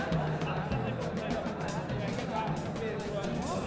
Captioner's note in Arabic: ثرثرة الحشد